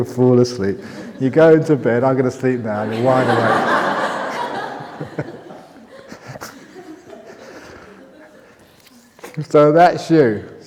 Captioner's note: laughter; laughter